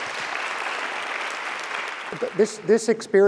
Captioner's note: clapping